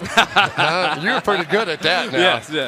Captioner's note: laughter